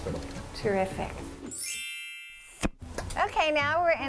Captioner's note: bells chime